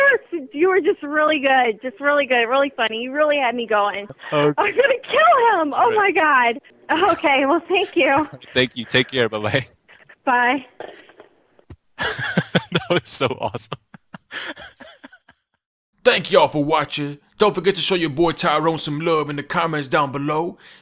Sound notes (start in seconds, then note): 12.0 laughing